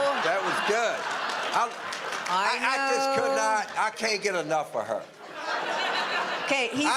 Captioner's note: audience laughter